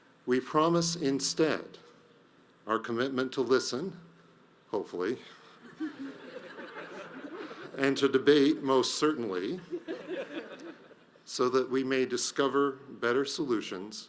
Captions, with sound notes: We promise instead, our commitment to listen, hopefully, (audience laughs) and to debate most certainly, (audience laughs) so that we may discover better solutions